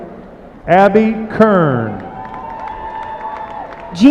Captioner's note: applause